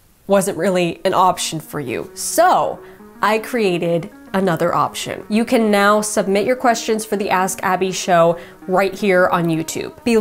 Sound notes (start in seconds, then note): none